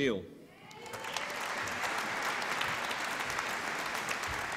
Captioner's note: applause